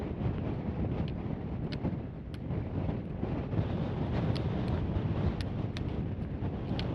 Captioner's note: stormy wind and freezing cold